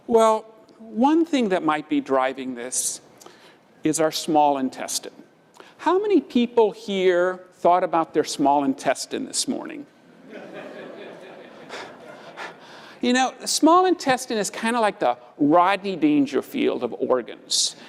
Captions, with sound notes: Well one thing that might be driving this is our small intestine. How many people here thought about their small intestine this morning? >> [LAUGH] >> You know, the small intestine is kind of like the Rodney Dangerfield of organs.